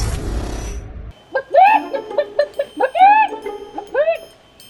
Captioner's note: clucks